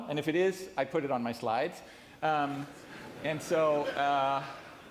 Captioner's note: laughing